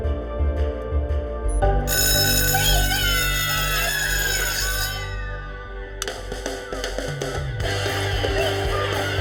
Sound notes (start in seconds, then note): 1.8 bell rings